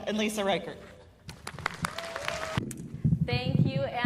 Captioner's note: cheers and applause